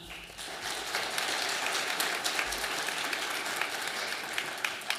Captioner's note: audience applauding